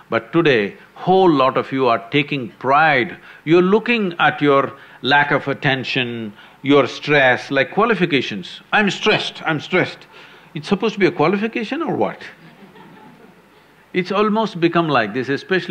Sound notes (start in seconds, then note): 12.3 few laugh